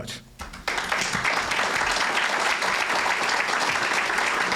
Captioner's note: cheers and applause